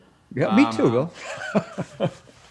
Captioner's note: laughs